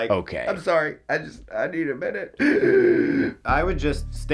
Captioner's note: wheezes